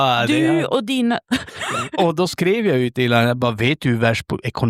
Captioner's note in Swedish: skratt